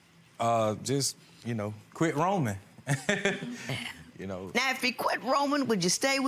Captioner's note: laughs